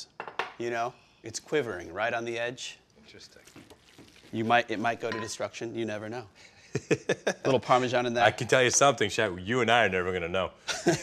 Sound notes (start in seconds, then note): 6.7 Ming laughs